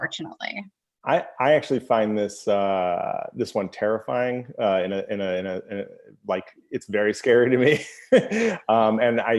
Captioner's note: laugh